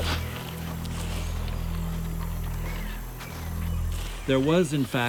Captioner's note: birds twittering